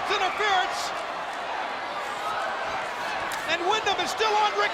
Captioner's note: spectators cheering